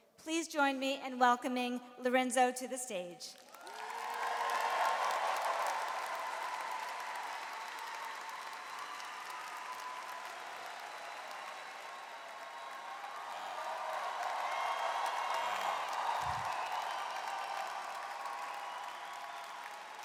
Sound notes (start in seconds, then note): 3.4 audience cheers and applauds